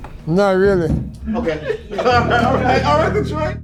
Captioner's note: all laughing